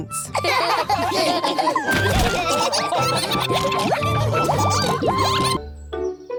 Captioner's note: all laughing